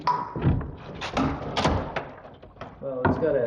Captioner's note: wood cracking